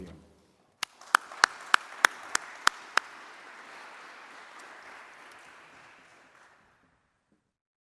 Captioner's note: applause